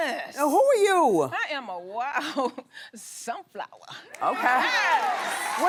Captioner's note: cheering